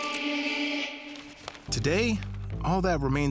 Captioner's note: paper rustling